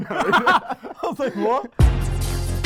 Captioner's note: laughs